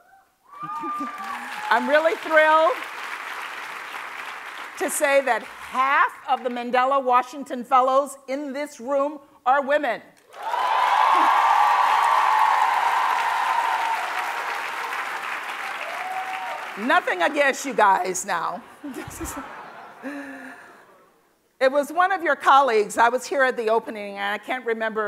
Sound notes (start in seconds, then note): 12.8 cheers and Applause; 18.8 laughter